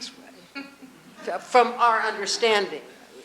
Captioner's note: audience chuckling